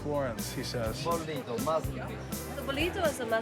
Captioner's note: speaking in foreign language